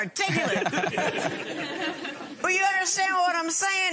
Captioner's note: laughter